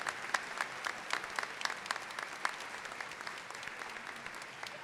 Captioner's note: applause